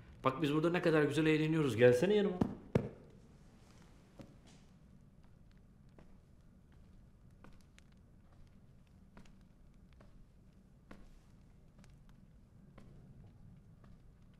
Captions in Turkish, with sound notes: Bak biz burada ne kadar güzel eğleniyoruz, gelsene yanıma. (Sessizlik)